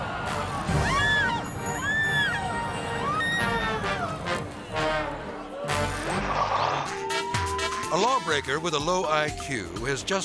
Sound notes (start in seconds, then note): 0.2 dramatic music; 1.1 person screaming